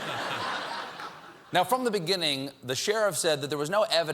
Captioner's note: laughter